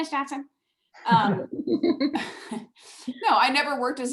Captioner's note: laughing